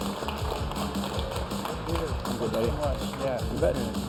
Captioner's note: applause